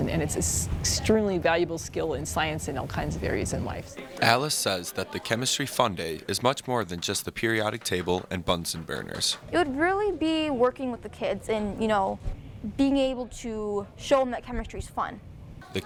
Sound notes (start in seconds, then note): 4.0 voiceover; 15.6 voiceover